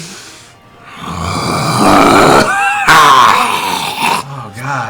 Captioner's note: insane growling; maniacal laughter